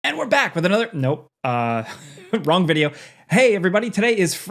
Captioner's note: chuckles